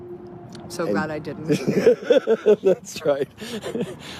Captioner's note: laughs